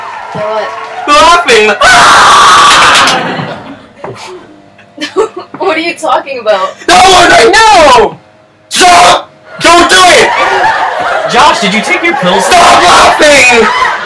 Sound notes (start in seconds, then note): 2.8 audience Laughs; 9.6 audience Laughs; 13.3 laughter continues